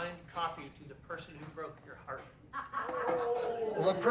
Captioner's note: scattered laughter